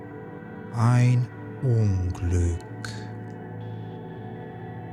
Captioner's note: german